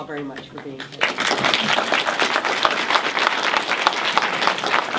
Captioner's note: audience applauds